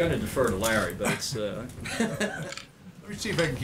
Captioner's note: laughs